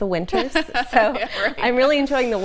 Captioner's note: laughing